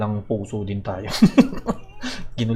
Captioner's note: evil laugh